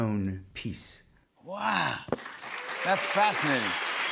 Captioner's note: cheers and applause